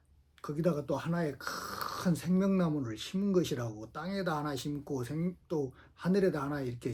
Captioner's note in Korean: 콧방귀